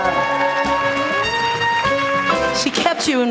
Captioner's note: applause